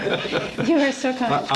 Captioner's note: laughs